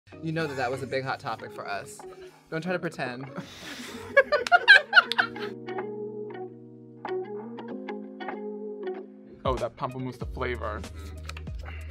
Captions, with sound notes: You know that that was a big hot topic for us. Don't try to pretend. [Laughing] Oh Pamplemousse, the flavor.